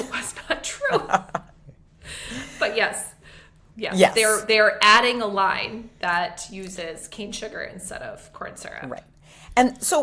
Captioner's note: chuckles